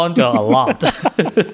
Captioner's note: laughter